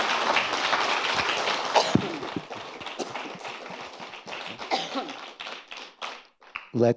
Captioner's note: applause continues; Clinton coughing